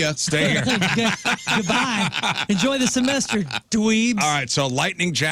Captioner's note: laughing